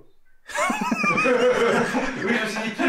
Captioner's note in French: Rires